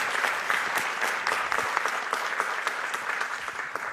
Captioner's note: applause